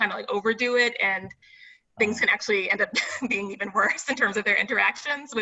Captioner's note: laughs